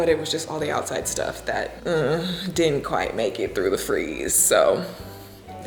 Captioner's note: groans